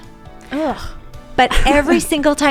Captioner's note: laughs